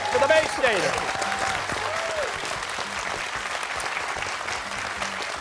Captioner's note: cheers and applause